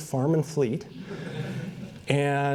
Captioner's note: laughter